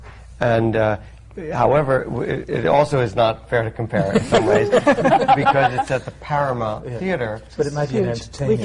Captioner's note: laughter